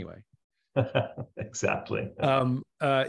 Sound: chuckles

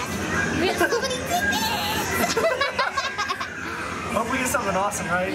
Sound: laughing

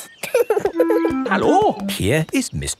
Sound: laughing

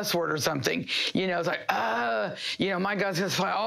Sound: groans

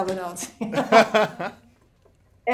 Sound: laughs

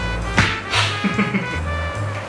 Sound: laughter

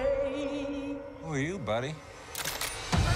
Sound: hammer cocks

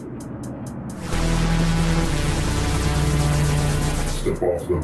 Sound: apprehensive percussion; sparks crackling

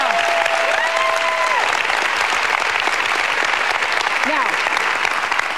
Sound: audience applauds

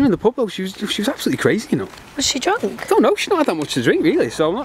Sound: crew muttering

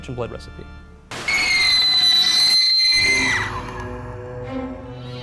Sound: squeal

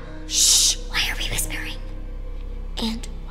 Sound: whispering

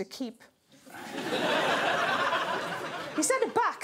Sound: crowd laughs

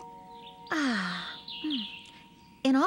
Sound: sighs

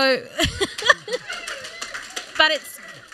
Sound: applause

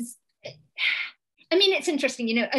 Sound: sigh

